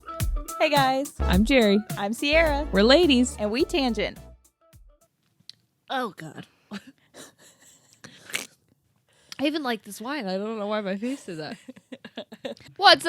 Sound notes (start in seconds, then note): 7.9 girls laughing